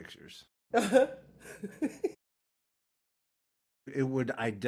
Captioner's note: laughing